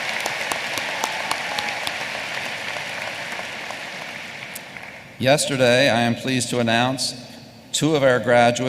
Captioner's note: applause